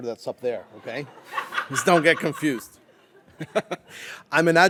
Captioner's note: audience laughs